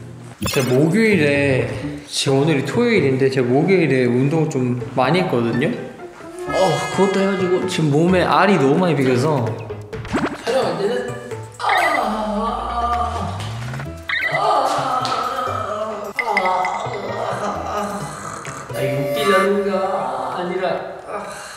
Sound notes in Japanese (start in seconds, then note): 11.4 悲鳴 １発; 14.1 悲鳴 ２発